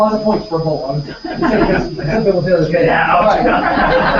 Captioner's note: laugh